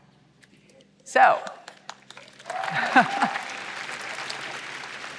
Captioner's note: applause